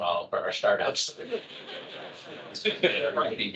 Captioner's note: attendees laughing